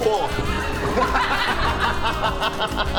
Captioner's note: enthusiastic laughter